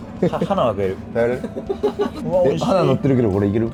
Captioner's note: laughs